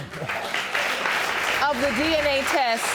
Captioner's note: audience applauding